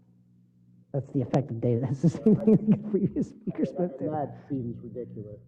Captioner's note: laugh